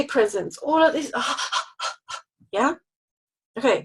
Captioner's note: exhales rapidly